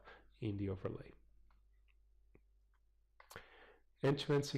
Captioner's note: pause